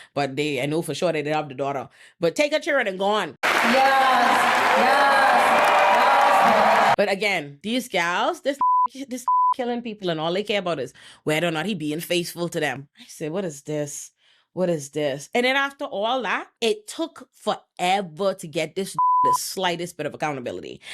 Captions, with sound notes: But they, I know for sure they did have the daughter. But take her children and gone. Yes, yes, yes. But again, these girls, this (beep) this (beep) killing people and all they care about is where they're not even being faithful to them. I say, what is this? What is this? And then after all that, it took forever to get this (beep) the slightest bit of accountability.